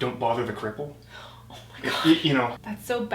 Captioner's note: gasps